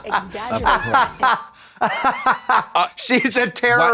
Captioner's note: Trixie snickers; Trixie cackles